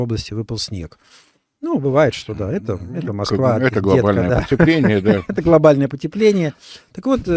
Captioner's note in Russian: смех